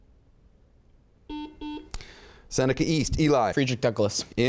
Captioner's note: buzzes